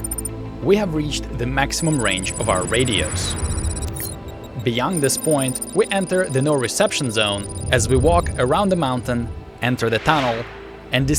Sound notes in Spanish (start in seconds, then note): none